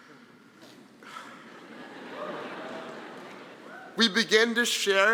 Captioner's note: audience laughing